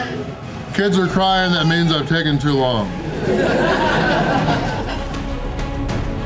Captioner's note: crowd laughter